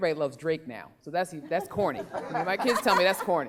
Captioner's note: laughing